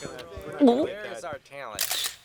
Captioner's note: gulps